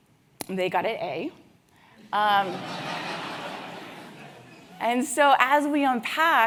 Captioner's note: laugh